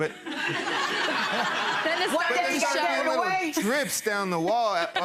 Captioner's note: people laughing